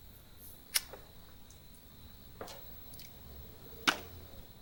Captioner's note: lighter clicking